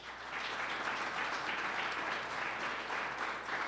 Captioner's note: audience applauds